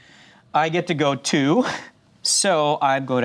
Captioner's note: laughs